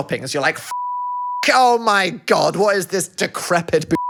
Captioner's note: beep; beep